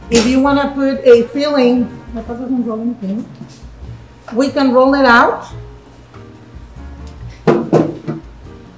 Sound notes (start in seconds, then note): 2.1 whispers indistinctly; 5.8 light music